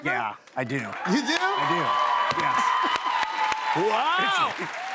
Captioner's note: cheers and applause